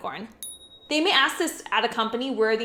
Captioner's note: dinging